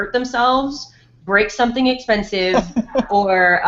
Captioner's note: laughs